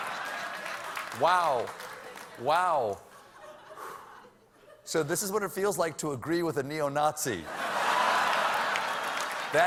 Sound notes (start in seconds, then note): 3.1 laughter